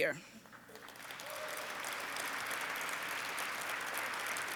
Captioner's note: audience applauds